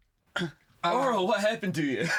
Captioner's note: gasping